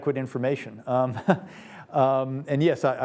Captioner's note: laughs